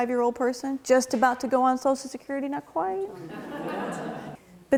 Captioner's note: laughing